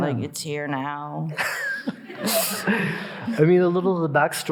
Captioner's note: all laughing